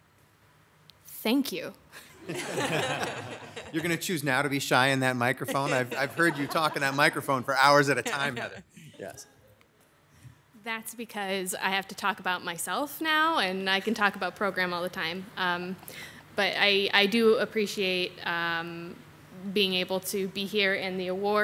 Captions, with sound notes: - Thank you. (audience laughing) - You're gonna choose now to be shy in that microphone? I've heard you talking that microphone for hours at a time, Heather. Yes. - That's because I have to talk about myself now, and I can talk about program all the time, but I do appreciate being able to be here and the award